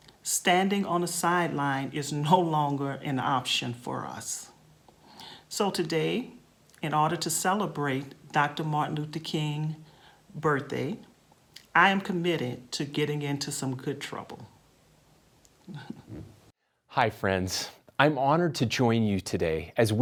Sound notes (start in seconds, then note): 15.6 laughs